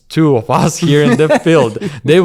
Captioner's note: laughs